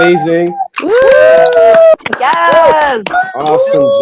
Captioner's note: panelists cheering; panelists clapping